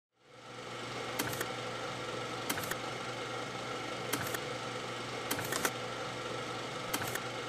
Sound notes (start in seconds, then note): 0.7 machine whirring; 1.5 stamps stamping